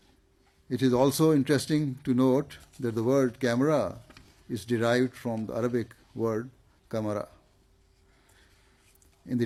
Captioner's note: Arabic